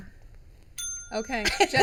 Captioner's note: ding